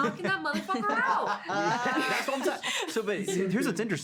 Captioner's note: laughing